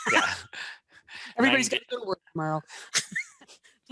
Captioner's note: laughs